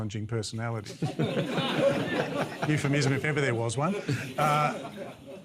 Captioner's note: laughter